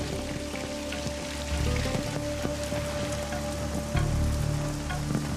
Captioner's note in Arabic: رذاذ المطر; موسيقى حزينة